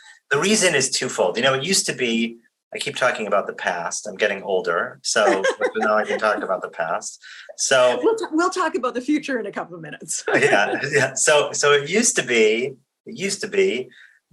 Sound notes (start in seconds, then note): 5.2 laughs; 10.2 laughs